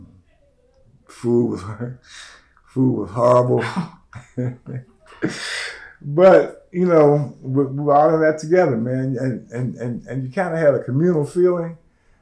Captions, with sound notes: food was horrible, (Laughter) but we were all in that together, man. You had a communal feeling.